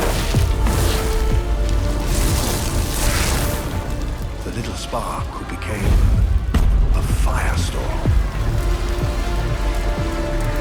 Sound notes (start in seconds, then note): 0.0 magic whooshing; 1.9 fire roaring and crackling